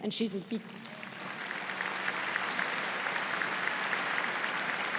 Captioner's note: audience applauds